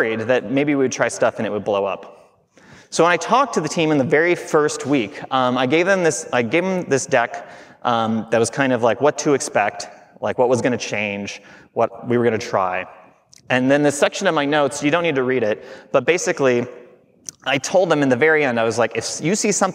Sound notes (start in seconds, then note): none